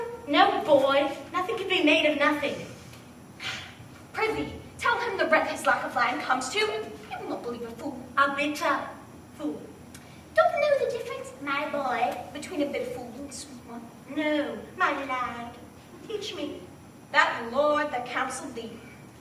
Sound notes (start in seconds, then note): 3.4 sigh